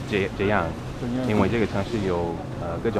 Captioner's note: mandarin